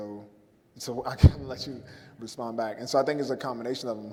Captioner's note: laughs